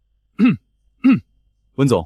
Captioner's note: cough